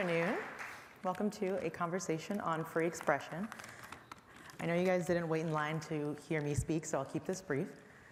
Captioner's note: applause